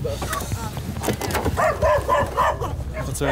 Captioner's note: barking